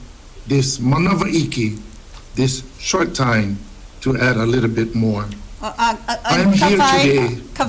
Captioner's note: speaks Hawaiian